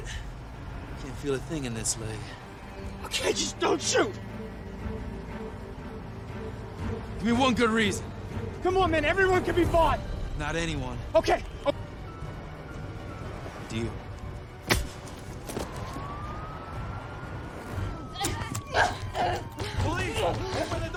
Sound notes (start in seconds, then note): 3.4 tense music; 14.6 smacks; 15.3 police sirens wailing; 16.9 grunting